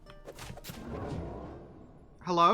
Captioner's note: portal vworps